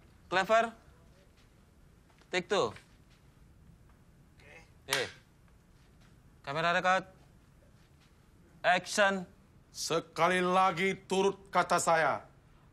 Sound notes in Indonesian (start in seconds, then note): 4.8 clap